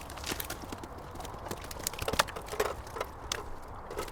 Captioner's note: fish flopping around